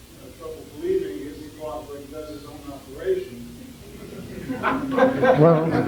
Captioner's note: amid laughter